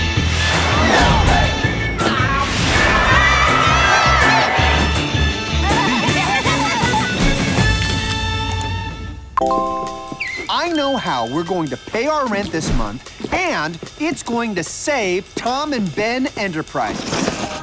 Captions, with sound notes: [crowd cheering] [laughing] I know how we're going to pay our rent this month, and it's going to save Tom and Ben Enterprises.